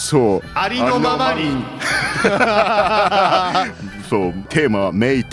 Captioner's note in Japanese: 笑い